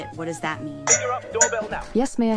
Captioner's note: doorbell rings